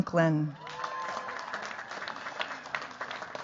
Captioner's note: cheers, applause